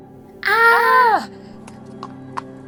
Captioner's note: screams